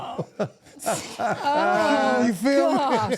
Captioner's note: laughing